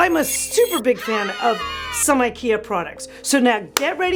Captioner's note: women cheering